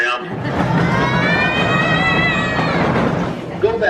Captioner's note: kids yelling